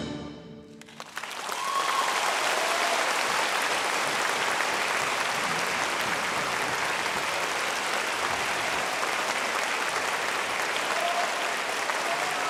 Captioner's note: applause